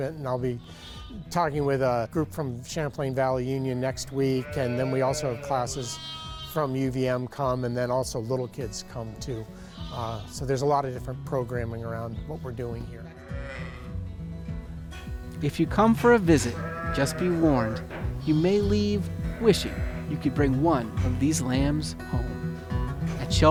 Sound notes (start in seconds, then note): 13.0 sheep bleats